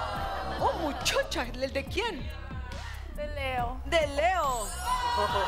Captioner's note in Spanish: Exclamaciones